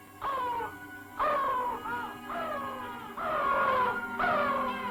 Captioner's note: vultures screaming